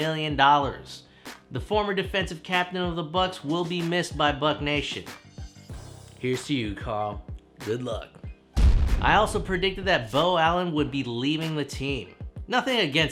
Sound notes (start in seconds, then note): 8.6 cannon fire